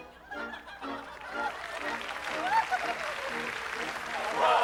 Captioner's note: applause